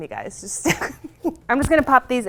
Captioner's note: laughing